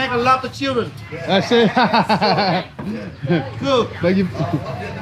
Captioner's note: laughs